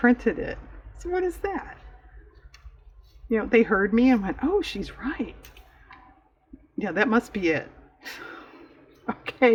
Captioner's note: laughs